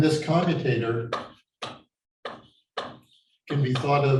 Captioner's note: chalkboard tapping loudly